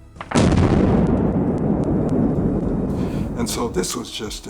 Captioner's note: bomb exploding